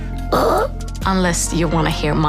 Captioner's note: grunts breathily